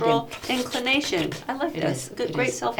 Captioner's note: making slurping noises